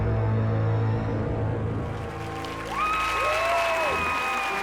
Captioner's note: audience cheering and applauding